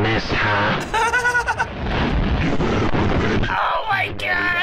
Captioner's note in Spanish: risitas